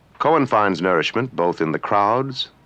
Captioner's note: speaking french